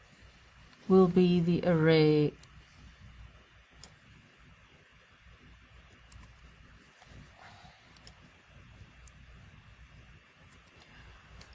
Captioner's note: pause